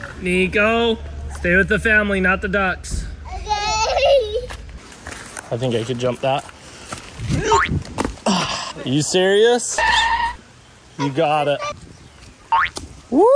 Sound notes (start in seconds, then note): 3.5 laughing; 7.3 spring sound; 9.6 tires screeching; 12.6 spring sound